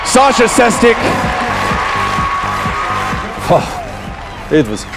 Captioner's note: cheers and applause